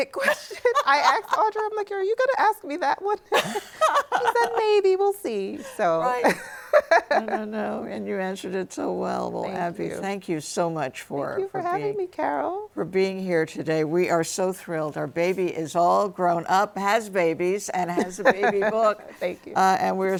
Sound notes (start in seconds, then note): 3.3 both laughing; 5.6 laughs